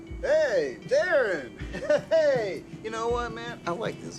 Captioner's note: laughs